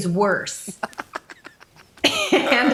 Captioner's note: laughs